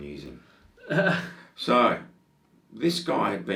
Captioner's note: laughs